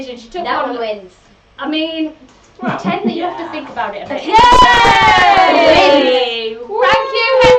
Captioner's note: they all cheer